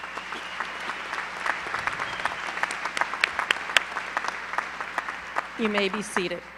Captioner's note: applause